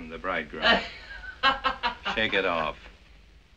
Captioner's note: laughing